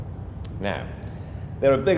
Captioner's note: tongue clicks